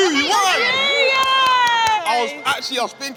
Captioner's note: participants laughing; claps